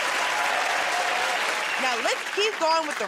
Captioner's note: cheers and applause